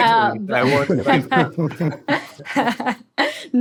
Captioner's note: laughs